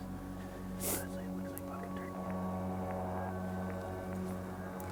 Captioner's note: speaking faintly